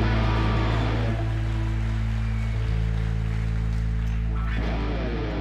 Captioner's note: audience applauding and cheering